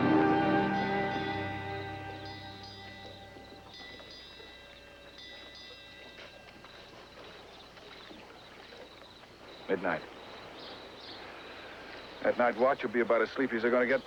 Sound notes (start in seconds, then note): 0.0 bell Ringing; 6.6 ringing Stops